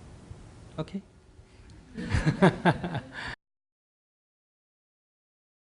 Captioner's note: laughter